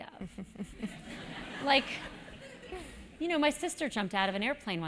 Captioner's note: laugh